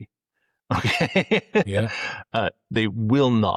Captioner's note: laughs